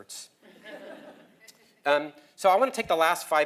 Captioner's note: laugh